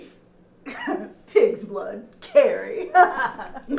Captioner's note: chuckling